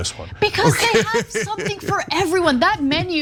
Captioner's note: laugh